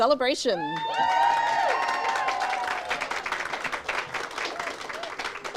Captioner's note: audience cheers and applauds